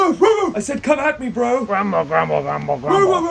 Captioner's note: arguing